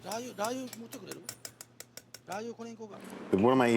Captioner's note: speaking in foreign language